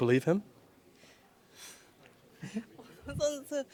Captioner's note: translator sighs